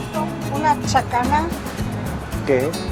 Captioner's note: in Spanish